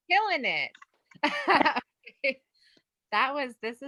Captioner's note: gentle laughs